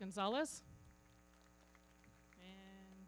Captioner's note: everybody clapping